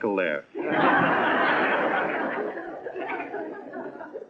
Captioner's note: laughing